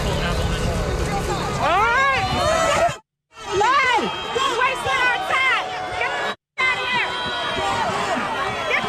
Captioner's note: crowd booing